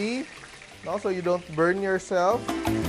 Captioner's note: sizzle